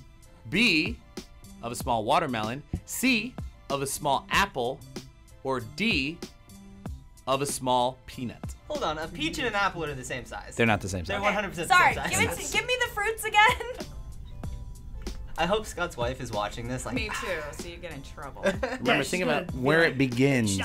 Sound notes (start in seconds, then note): 17.0 sighs